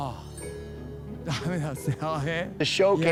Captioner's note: speaking japanese